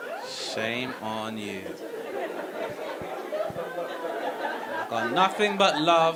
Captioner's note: audience laughing